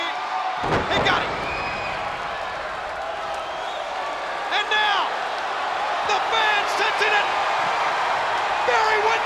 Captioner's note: applause